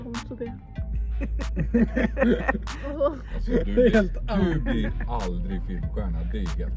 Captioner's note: laughter; laughter